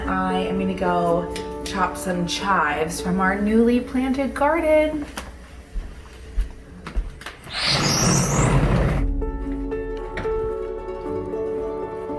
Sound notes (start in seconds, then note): 7.4 door squeaking open; 9.3 peaceful music